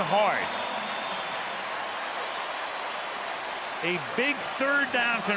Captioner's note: cheering